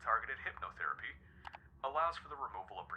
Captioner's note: clicking